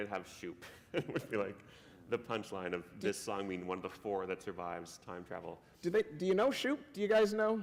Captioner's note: laughter